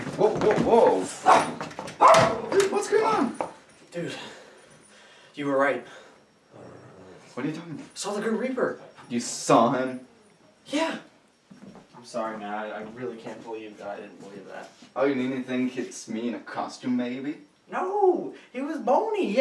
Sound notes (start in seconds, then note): 1.2 dog barking; 4.8 out of breathe